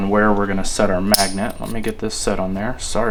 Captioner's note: magnet clicking